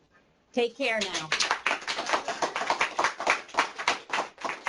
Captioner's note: applause